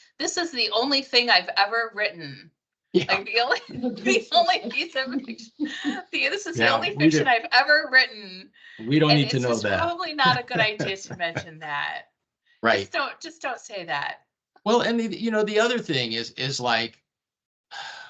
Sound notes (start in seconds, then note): 3.5 laughing; 10.2 laughing